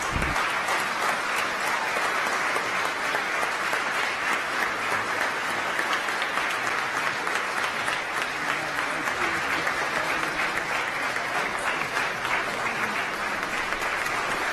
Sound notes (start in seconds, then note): 2.6 applause